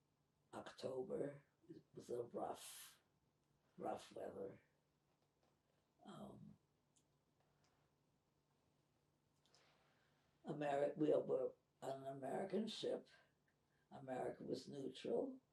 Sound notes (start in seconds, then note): 4.7 pauses 6 seconds